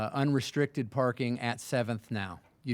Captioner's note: none